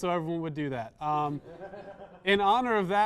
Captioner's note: small laughter